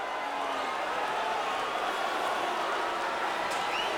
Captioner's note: crowd boos